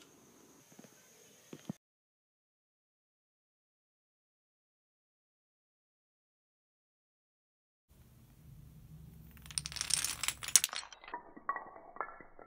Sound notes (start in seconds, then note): 7.5 dominoes falling; 10.6 dominoes in slow motion